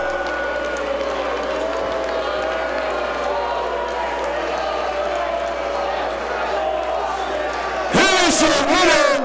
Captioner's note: applause